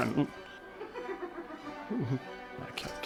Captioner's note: laughing